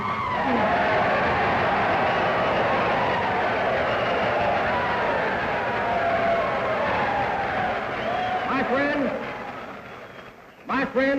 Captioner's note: cheers, applause